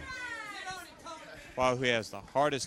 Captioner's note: crowd chatter